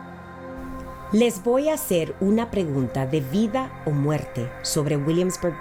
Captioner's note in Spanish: speaks in foreign language